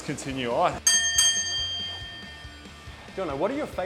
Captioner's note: bell chimes